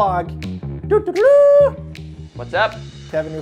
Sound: horn imitation

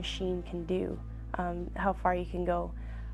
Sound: relaxing music; voiceover

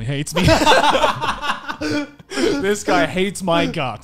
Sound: laughing loudly

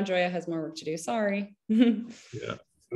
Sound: chuckles

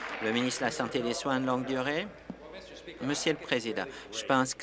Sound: applause

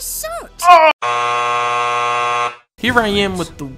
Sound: buzzer noise

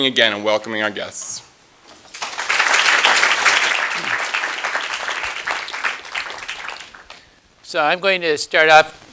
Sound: applause

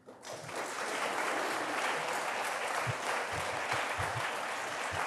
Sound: audience applauding

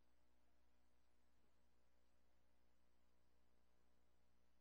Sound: talking off mic

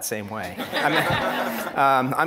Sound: audience laughing

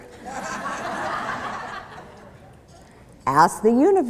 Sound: laughter

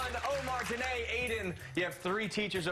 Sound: cheers and applause

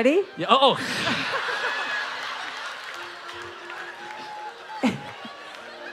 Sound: audience laughing

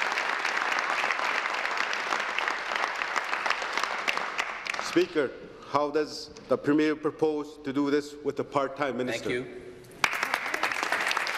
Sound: applause

